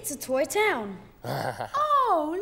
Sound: Groove laughs

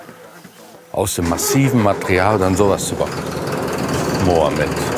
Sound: engine starts

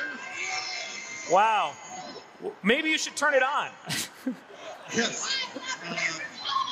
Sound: laughing

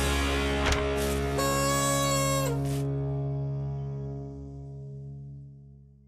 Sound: page rustles; noise maker honks

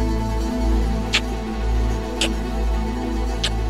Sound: sound of kissing

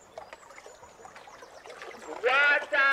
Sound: water sloshing

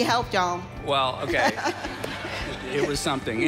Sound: audience laughing

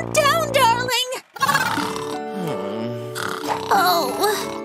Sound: snoring

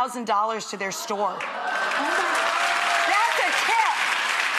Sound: audience cheering

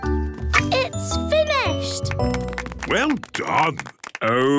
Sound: applause

